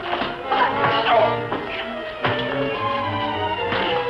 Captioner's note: grunting